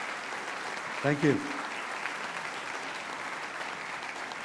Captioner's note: applause